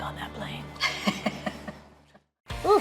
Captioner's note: laughs